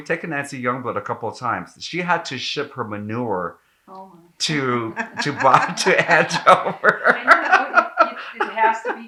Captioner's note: laughing